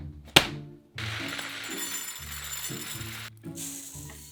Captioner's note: rice pouring